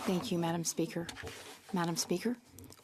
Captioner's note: speaking French